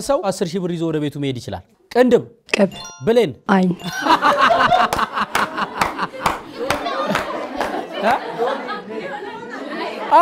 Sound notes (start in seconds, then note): 3.8 laughter and applause; 7.3 crowed sound